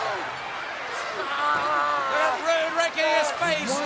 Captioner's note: screams